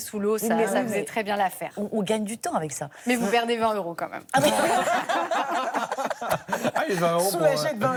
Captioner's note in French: rires